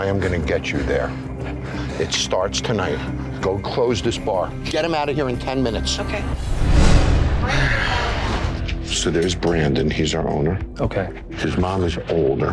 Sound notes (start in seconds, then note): 7.1 dramatic music; 8.0 sighing